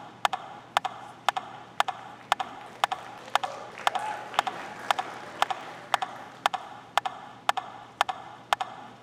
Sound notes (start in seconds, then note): 4.3 audience clapping